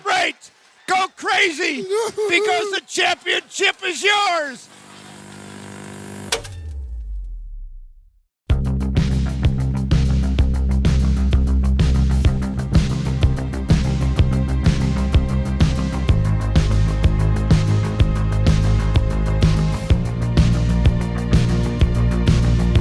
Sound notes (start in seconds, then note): 6.6 film stopping; 9.9 lively upbeat music